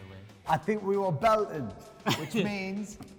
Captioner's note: laughing